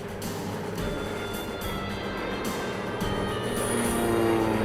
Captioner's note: plane engine roars